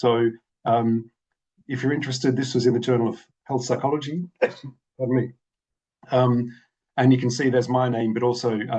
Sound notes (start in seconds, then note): 4.3 coughs